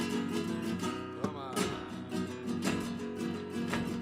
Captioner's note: man exclaiming in foreign language; heels rhythmically clicking